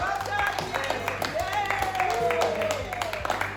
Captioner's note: applause